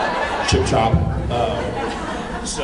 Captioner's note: laughs